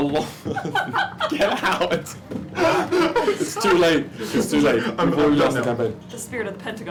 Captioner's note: laughs